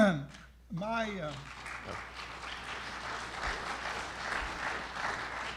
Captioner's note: audience applauding